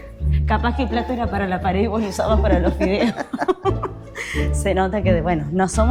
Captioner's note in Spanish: risas